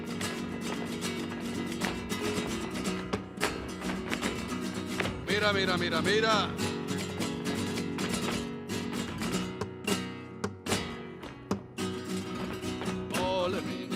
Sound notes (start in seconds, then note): 2.1 footsteps rhythmically stomping; 5.4 man exclaims in a foreign language; 8.3 heels rhythmically clicking; 13.4 man and woman sing in a foreign language